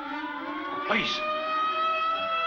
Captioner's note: siren wails